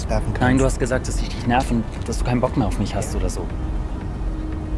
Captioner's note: Jonas speaks in German; Moritz speaks in German